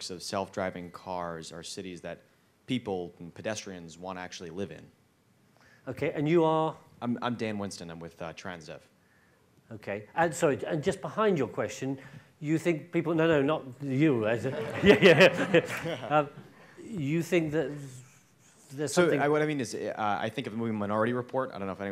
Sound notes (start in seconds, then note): 14.4 and audience laughs